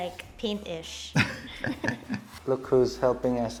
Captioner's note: giggles